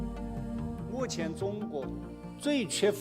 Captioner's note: speaking chinese